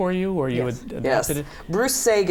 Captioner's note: laughs